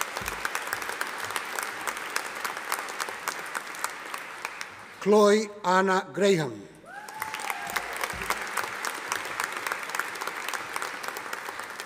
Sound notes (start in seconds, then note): 0.0 audience applauding; 6.9 audience applauding